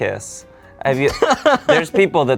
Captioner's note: laughs